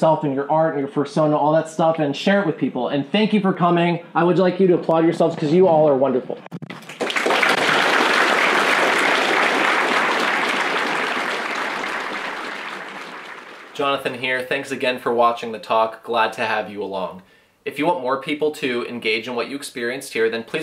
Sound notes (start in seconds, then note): 6.6 clapping